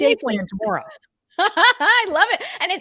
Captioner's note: laughs